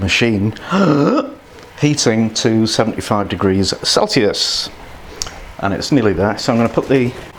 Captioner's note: takes breath